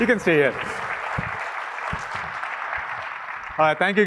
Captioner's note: applause